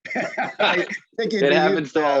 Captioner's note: laughs